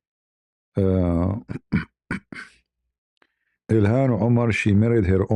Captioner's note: berdehem